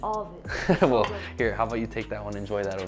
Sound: chuckles

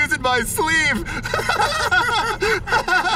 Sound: laughing; laughter

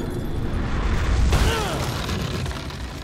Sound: thudding, grunting

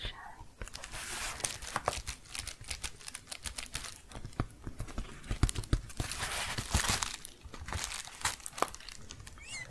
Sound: crinkling and tapping

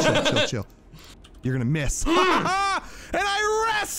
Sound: laughing; laughs

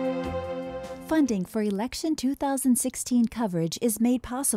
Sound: voiceover

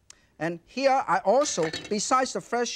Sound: knife clinks

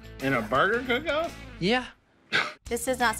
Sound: scoffs

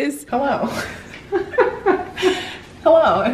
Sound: laughs

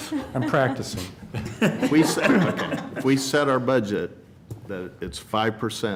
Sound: laughter

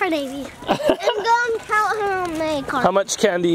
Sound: laughs

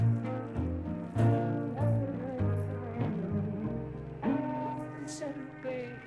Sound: humming

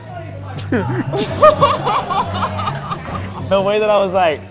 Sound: laughing

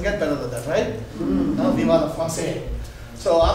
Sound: speaks in foreign language

